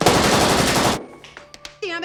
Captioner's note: laughing